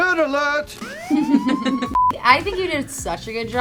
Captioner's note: everyone chuckling